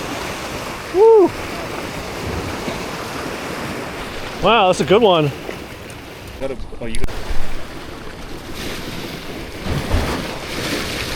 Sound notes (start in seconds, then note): 5.7 wind blowing